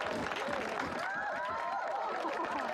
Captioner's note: crowd applauds; laughter